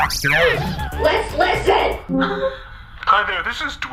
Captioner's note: voicemail plays